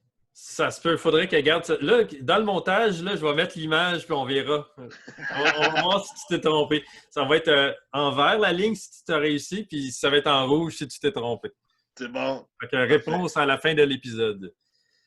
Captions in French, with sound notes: Ça se peut... faudrait que je regarde Dans le montage, je vais mettre l'image pis on verra [rires] Ça va être en vert la ligne si tu as réussi puis ça va être en rouge si tu t'est trompé. C'est bon, c'est bon. Réponse à la fin de l'épisode